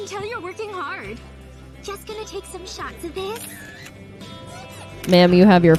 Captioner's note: shutter sounds